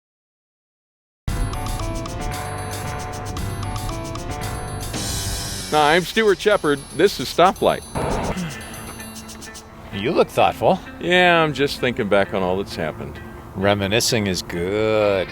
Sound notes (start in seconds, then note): 8.1 sighs